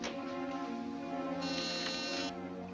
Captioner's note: intercom buzzes